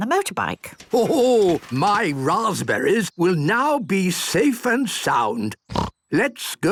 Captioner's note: snort